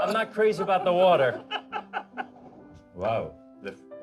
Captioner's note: all laughing